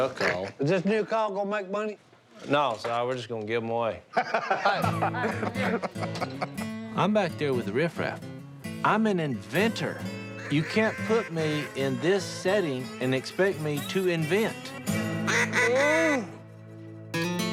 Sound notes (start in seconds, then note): 4.1 laughter